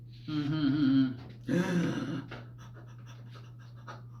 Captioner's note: gasp